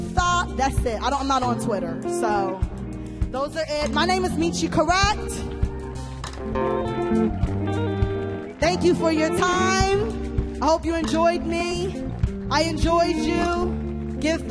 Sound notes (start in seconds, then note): 5.4 audience cheers and applauds